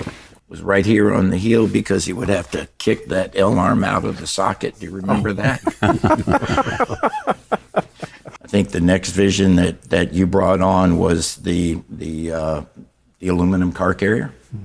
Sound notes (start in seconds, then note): 6.8 laughing